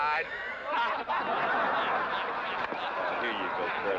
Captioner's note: crowd laughing